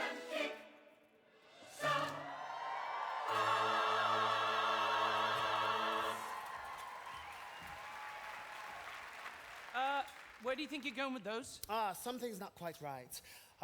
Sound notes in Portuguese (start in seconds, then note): 6.5 audience cheering and applauding